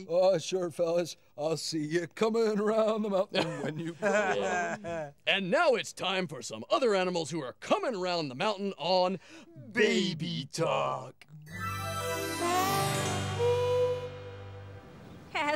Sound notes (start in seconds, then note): 4.4 chuckling; 11.4 mystical tones